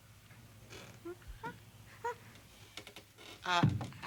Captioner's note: Stink whimpers